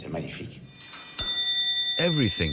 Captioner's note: clock chiming